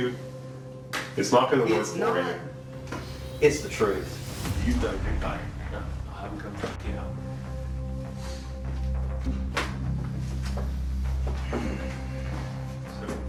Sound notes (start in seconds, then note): 3.9 indistinct chatter; 6.9 tense music playing